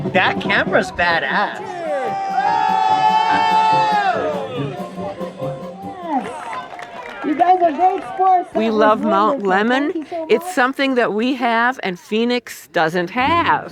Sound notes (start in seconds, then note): 2.5 synchronous shouting